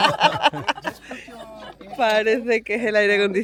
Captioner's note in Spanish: risas